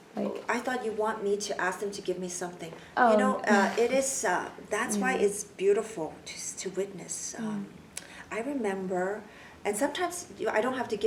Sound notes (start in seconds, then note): 7.5 clicks tongue